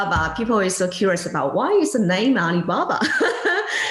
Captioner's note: laughing